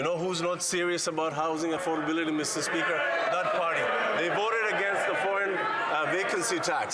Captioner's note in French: voix de l'interprète